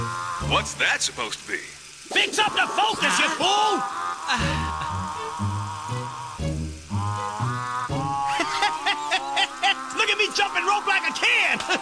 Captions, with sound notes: - What's that supposed to be? - Fix up the focus, ya fool! - (sighs) - (laughing) Look at me jumping rope like a kid!